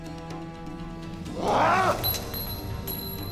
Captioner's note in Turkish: Bağırma sesi